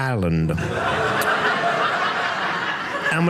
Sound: audience laughing

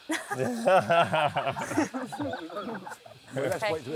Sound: laughs

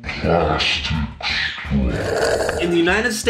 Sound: slurping sound

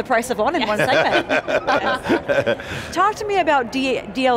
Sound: laughing

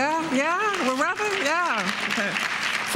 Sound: applause

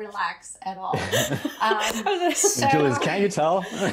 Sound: all laugh

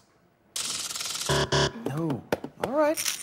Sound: buzzer

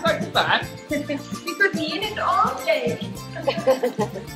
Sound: laughs

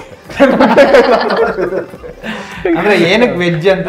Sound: laughing

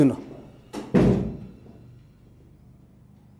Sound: door opens and shuts

